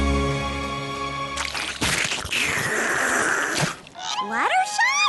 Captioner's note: slurp